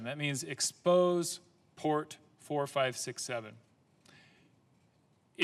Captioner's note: none